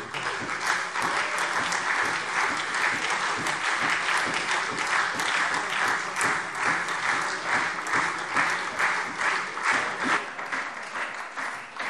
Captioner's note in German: Anhaltender Beifall SPD und Freie Demokraten